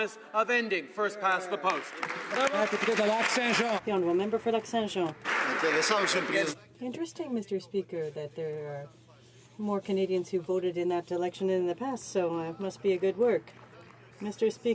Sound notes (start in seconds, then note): 6.8 speaking French